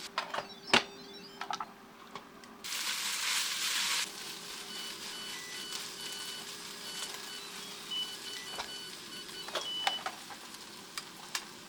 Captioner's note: cooking noises